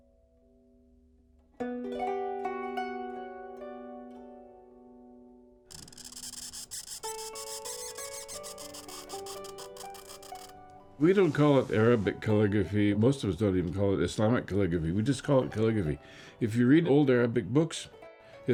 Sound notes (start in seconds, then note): 9.3 sound of pen scraping against paper